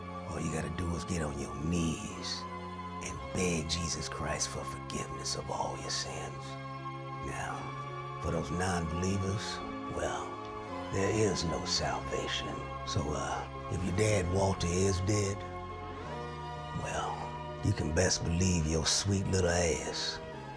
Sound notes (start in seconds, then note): none